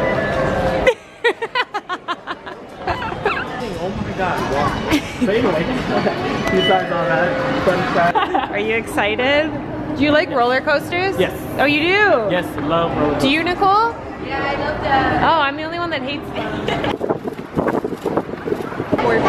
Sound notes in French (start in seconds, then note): 0.8 des rires